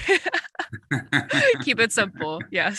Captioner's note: laughs